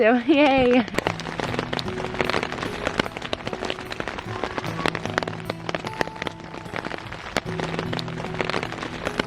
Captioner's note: rain and faint music